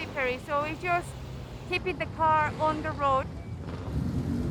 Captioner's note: car engine roaring